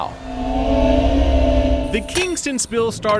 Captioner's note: whirring